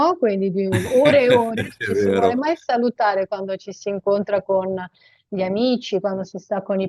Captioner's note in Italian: risate